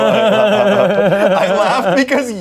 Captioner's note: laughs